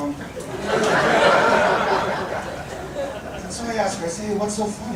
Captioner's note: audience laughing